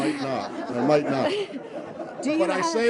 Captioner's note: laughter